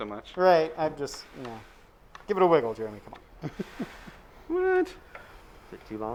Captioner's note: chuckling